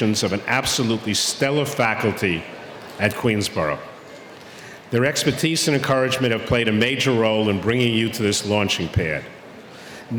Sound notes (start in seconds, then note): none